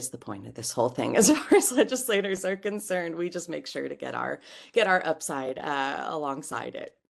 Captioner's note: laugh